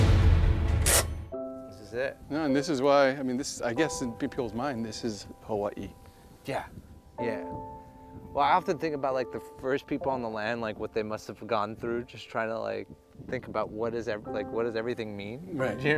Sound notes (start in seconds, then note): 0.9 brake cranking